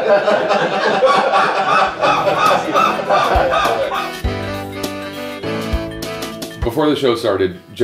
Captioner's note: laughter